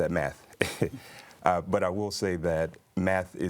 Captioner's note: chuckles